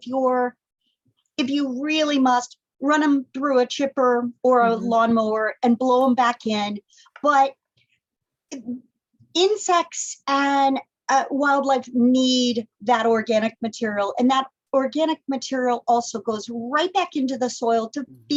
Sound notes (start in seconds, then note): none